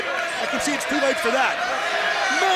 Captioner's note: crowd chatter